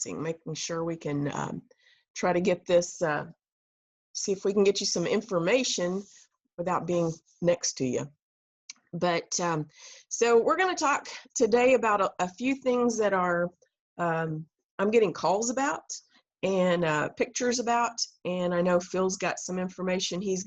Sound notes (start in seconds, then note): none